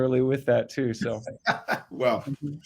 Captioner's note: laughs